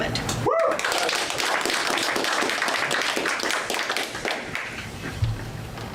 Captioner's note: audience applause